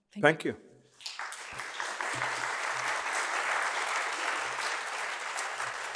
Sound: applause

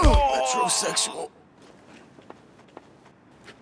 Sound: whispers

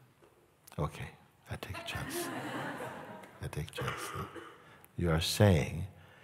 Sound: laughter

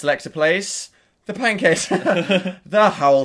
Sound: laughing

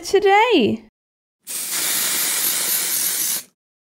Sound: shhhhh!

